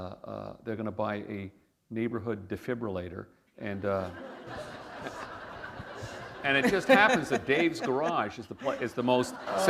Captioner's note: laughter